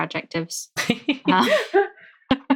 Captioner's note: laughing